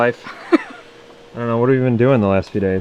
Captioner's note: laughing